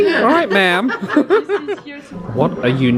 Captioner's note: both laugh